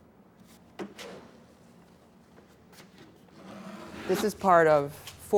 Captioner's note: clunk, scrape